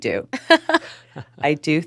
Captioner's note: hosts laughing